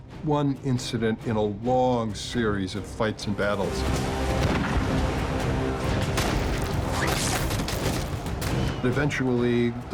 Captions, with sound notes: was just one incident in a long series of fights and battles. [gunshot]